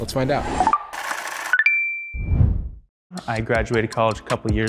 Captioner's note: machine whirring